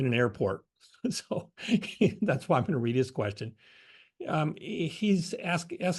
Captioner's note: laugh